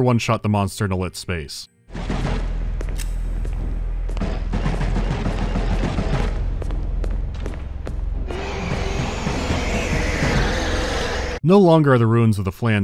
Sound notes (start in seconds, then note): 3.3 frantic thudding of footsteps in the dark; 8.2 ferocious wheezing